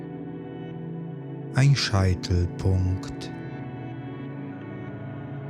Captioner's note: german